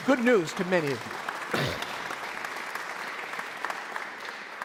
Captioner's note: audience applauds